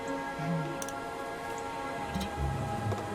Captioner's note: uncorking flask